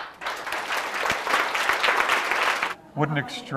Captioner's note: applause